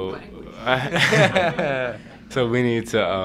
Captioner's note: chuckles